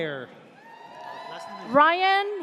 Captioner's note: audience cheers